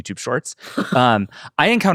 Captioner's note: laughs